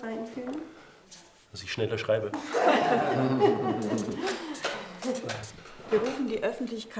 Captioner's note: laughter